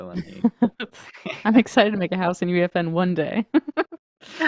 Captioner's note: laughs